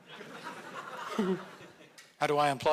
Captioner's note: audience laughing